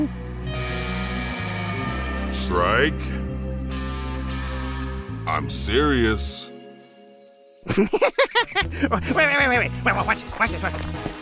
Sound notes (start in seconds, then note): 7.6 A hearty guffaw